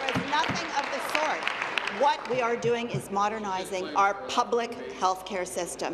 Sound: applause

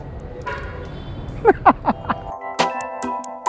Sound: laughing

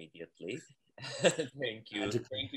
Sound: laughs

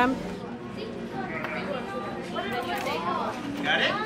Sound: muffled chatter

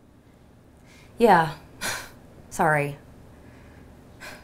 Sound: sighs

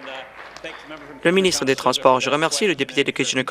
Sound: applause

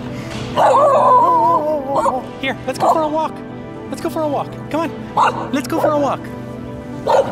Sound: barks

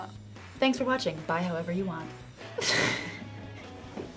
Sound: laughs

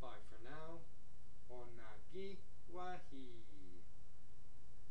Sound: speaking Mohawk

